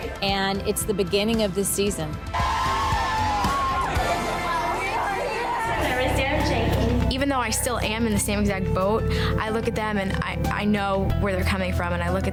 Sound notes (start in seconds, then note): 2.6 girls yelling; 6.0 announcer speaking